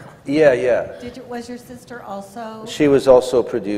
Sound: voiceover

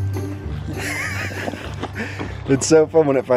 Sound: upbeat music; laughs

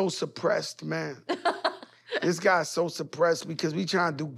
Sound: laughs

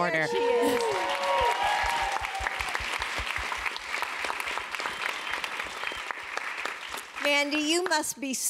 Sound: applause

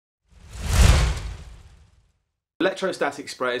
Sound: whooshes

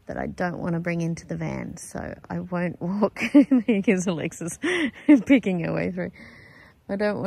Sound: laughs

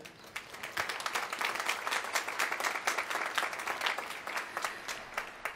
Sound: applause

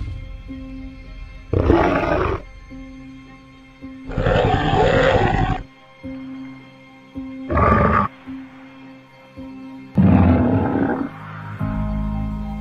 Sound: scutosaurus Growls

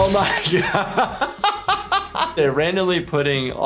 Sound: laughing

